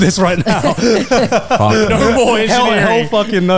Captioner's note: all laughing